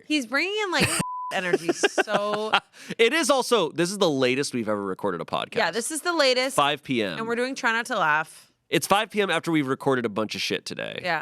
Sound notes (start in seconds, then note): 0.8 beep; 1.4 laughs